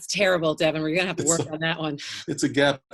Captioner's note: both laugh; laughs